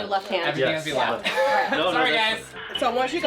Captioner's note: laughs